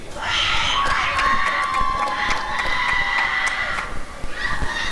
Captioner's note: applause and cheering